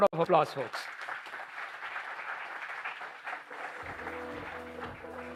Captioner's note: applause